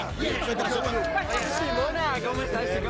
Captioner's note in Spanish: risas